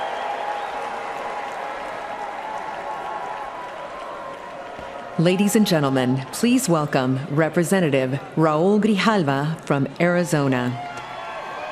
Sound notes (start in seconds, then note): 8.8 cheers and applause